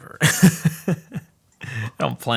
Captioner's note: laughing